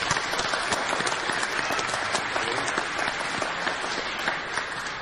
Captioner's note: clapping